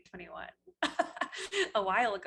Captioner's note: laughs